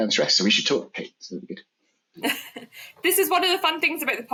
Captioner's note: laughs